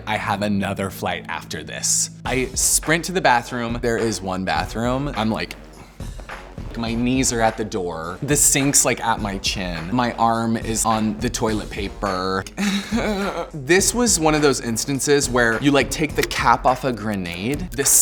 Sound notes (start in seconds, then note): 12.5 groans